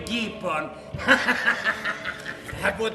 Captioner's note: γέλιο